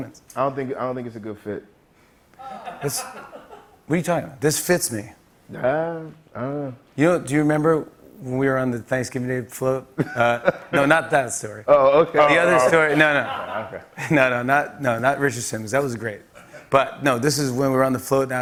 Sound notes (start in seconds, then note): 2.4 light laughter